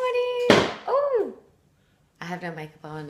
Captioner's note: thud